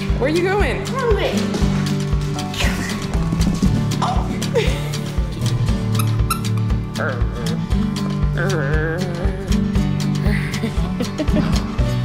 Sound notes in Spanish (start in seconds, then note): 4.5 Risas; 5.9 Juguete que chirría; 10.4 Risas